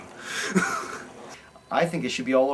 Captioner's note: chuckles